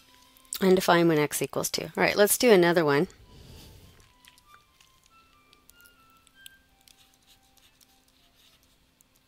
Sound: pause in Lecture

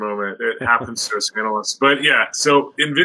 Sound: chuckling

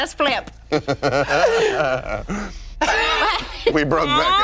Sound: laughing

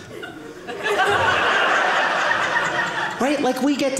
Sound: audience laughing

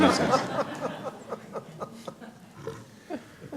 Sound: laughter

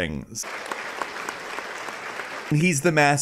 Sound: applause

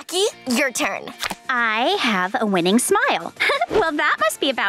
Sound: giggling

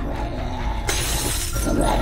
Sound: glass shatters; Shifter grunting and screaming

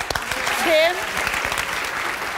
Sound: audience claps

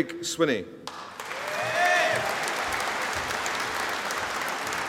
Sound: audience applauding

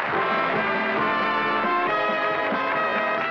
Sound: applause

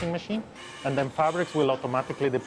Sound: machine buzzing

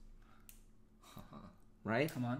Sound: laughs

